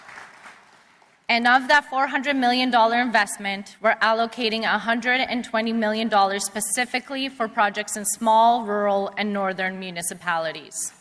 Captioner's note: applause